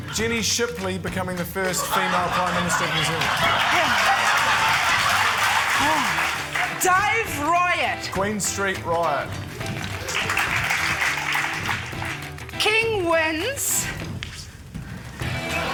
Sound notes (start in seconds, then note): 3.4 laughter, applause; 10.7 applause